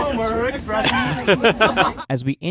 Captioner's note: laughs